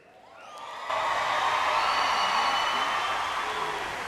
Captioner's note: applause